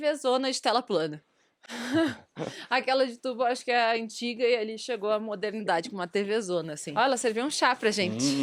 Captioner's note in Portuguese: risadas